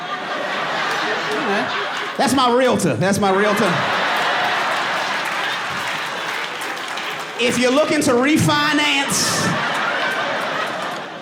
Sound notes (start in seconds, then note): 1.9 audience laughing and applauding